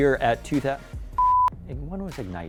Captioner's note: beep